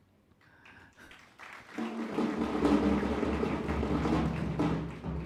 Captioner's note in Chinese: 鼓掌